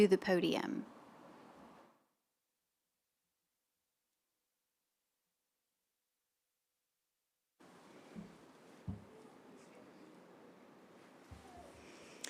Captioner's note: silence